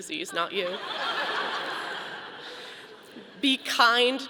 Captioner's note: audience laughing